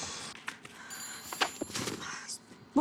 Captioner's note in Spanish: Suena el teléfono